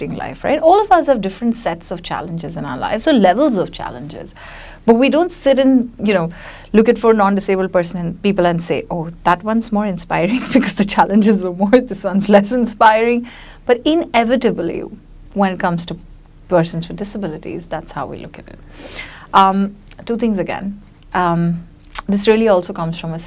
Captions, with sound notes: All of us have different sets of challenges in our lives, so, levels of challenges, but we don't sit and, you know, look at non-disabled people and say, oh, that one's more inspiring (chuckles) because the challenges were more, this one's less inspiring, but inevitably, when it comes to persons with disabilities, that's how we look at them. Two things again. This really also comes from a space where once we say